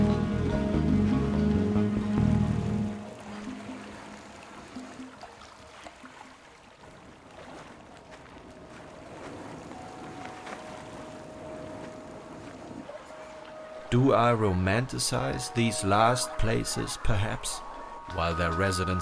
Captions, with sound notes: [GENTLE STREAM] Do I romanticize these last places, perhaps, while their residents